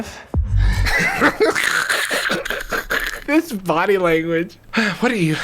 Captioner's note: laughing